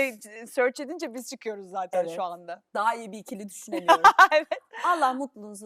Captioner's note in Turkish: kahkaha